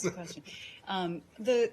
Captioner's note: laughter